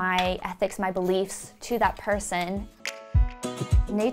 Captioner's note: fingers snap